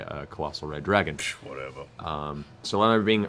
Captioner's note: scoffs